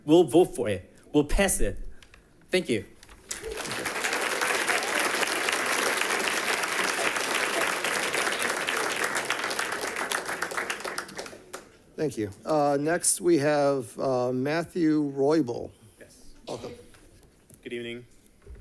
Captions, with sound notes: We'll vote for it. We'll pass it. Thank you. (people clapping) - Thank you. Next we have Matthew Roybal. - Yes. - Welcome. - Good evening.